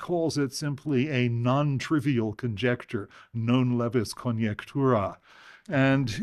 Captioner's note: speaking latin